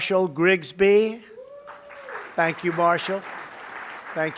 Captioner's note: applause